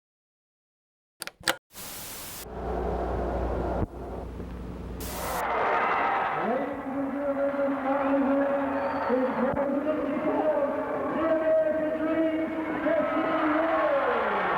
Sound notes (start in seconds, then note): 1.2 screen clicking; 1.8 static crackling; 2.7 television humming; 4.2 static crackling; 5.9 crowd cheering